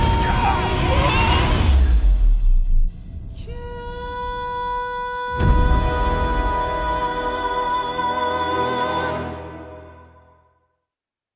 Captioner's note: pirates yelling